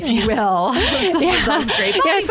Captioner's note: laughter